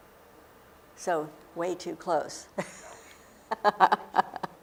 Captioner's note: laughing